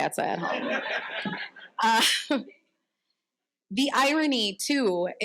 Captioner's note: audience laughing